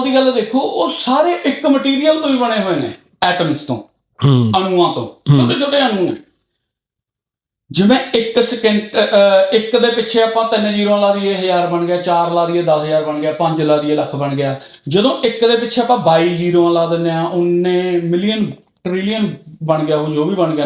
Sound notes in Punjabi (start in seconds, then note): 5.2 ਗਲਾ ਸਾਫ਼ ਕਰਨ ਦੀ ਅਵਾਜ਼